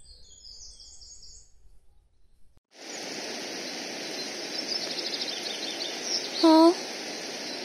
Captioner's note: birdsong